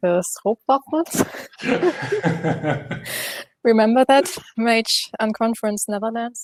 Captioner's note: laughter